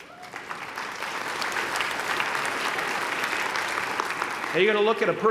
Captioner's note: applause